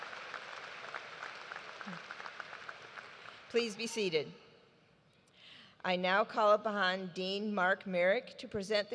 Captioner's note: applause